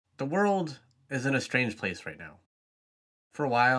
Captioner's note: voiceover